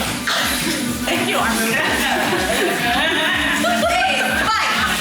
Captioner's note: laughter